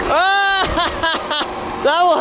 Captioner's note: laughs loudly